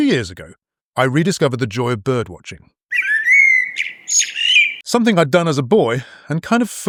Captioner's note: bird noises